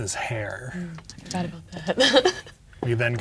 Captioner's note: laughs